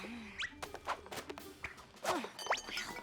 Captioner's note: whip! whip! whip!